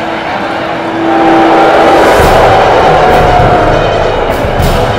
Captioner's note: Crowd cheering